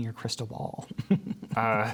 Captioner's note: laughter